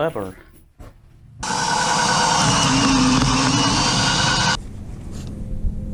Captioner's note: drilling noises